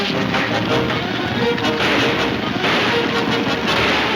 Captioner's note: gunshots banging